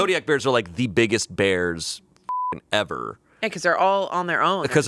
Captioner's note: beep